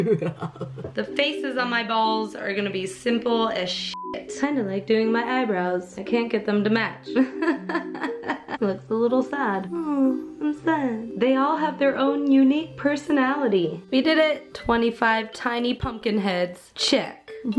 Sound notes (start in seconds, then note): 7.2 eternal struggle laugh